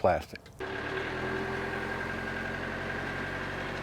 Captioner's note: tractor hum